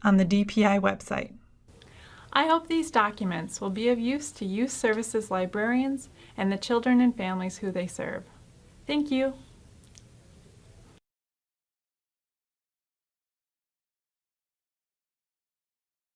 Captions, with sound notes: on the DPI website. I hope these documents will be of use to youth services librarians and the children and families who they serve. Thank you. [ Silence]